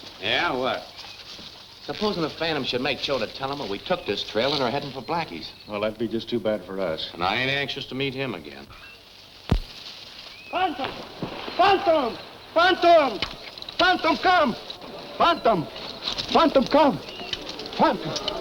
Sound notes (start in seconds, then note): 10.7 water splashing